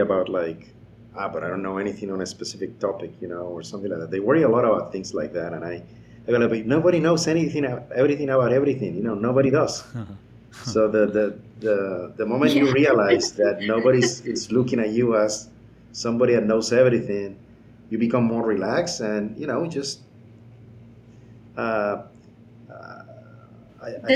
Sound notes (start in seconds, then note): 10.6 laughing